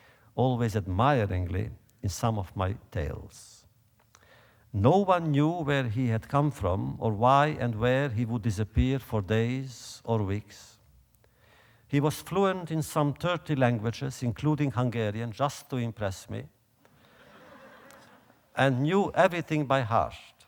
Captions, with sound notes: always admiringly in some of my tales. No one knew where he had come from, or why and where he would disappear for days or weeks. He was fluent in some 30 languages, including Hungarian, just to impress me. (audience laughter) And knew everything my heart.